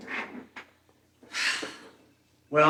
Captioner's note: Anna sighs